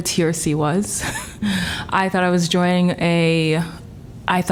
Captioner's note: laughter